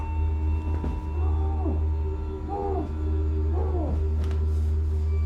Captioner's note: muffled screams